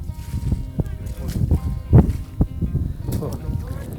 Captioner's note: wind blowing